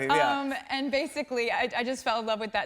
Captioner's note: normal voice